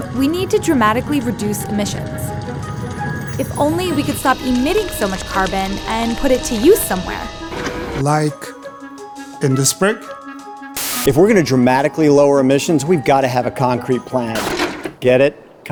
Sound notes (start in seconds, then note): 10.8 static; 14.0 tape failing